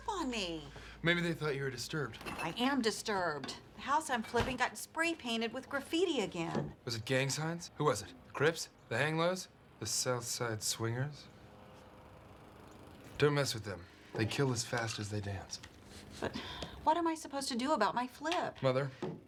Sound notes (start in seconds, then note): none